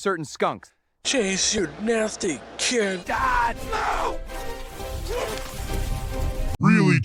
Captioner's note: vomits